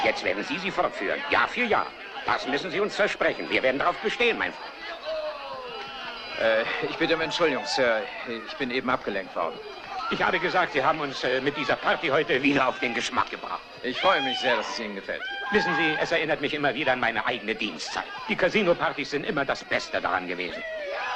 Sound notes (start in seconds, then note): 15.1 hollering